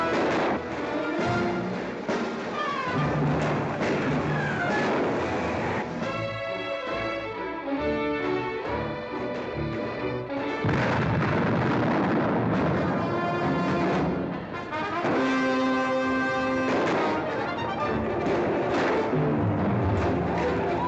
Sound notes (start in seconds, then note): 0.0 gunshots; 10.6 loud explosion; 13.6 dramatic music; 16.7 gunshots; 20.4 Comanche battle cries